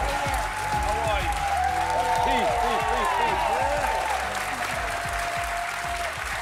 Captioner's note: cheers and applause